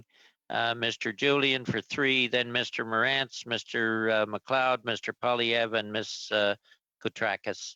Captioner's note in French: voix de l'interprète